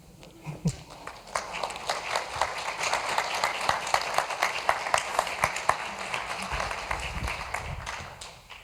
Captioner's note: applause